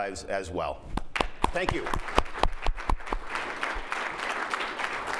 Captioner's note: applause